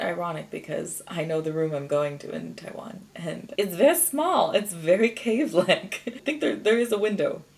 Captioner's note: giggles